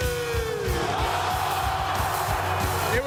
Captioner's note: applause